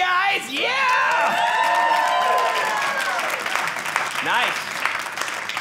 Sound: audience cheering

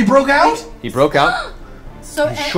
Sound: gasps

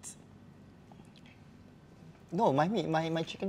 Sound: painful silence

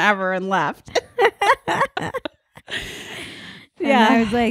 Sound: laughing

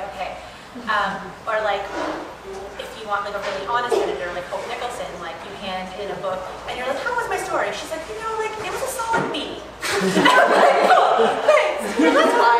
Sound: laughter

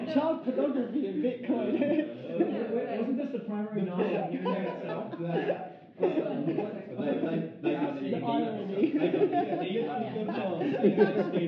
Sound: laughing

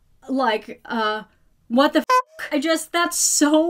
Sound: beeps

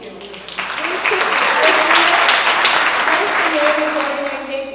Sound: applause

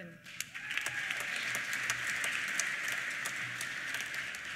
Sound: applause; cheers

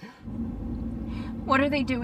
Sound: wind blowing

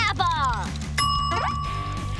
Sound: dinging

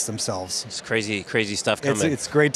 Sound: laughs

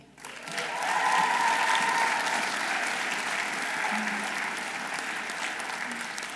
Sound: audience applauding; audience cheering

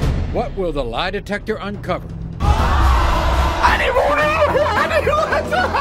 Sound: audience gasping

